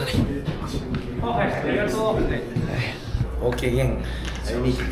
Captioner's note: speaking Japanese